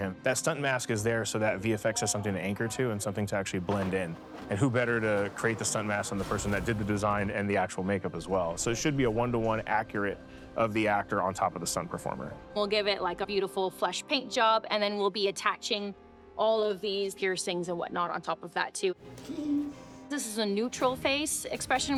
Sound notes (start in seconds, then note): 19.1 giggles